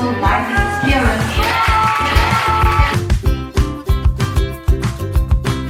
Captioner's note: clapping and cheering